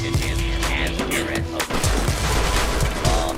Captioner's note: bash!